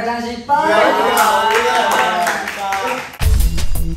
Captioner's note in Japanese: 拍手